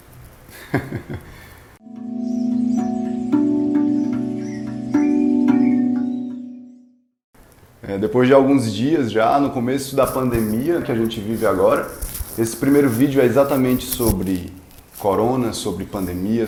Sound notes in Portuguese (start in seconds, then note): 0.5 risos